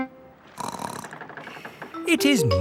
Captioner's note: snorts